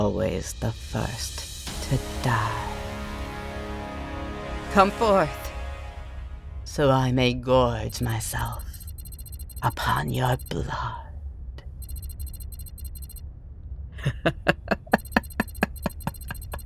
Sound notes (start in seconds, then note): 7.9 beep beep beep boop…; 14.0 evil laughter